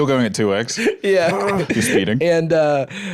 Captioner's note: laughing